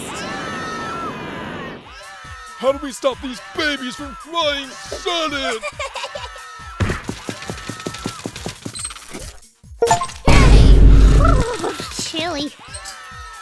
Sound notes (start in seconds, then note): 0.0 screaming; 5.6 crying